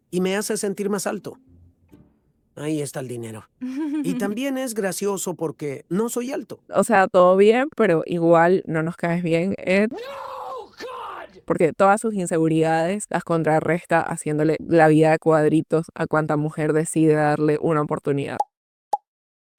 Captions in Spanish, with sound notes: y me hace sentir más alto. Ahí está el dinero. Y también es gracioso porque no soy alto. O sea, todo bien, pero igual no nos caes bien, Ed. [grito] Porque todas sus inseguridades las contrarresta haciéndole la vida a cuadritos a cuanta mujer decida darle una oportunidad.